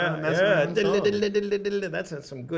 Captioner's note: picking sounds